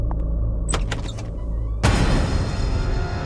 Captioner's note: Door opens